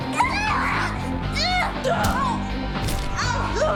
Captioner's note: grunting